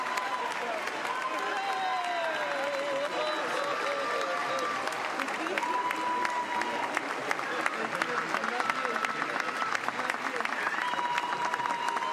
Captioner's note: cheers and applause